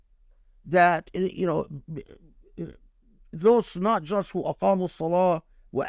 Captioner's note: speaking Arabic